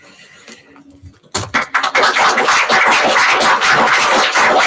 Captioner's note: applause